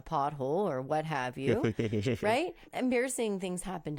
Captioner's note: laughs